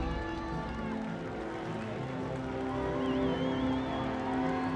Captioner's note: cheering, clapping